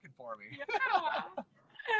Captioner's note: laughs